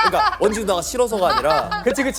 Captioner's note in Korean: 꺽꺽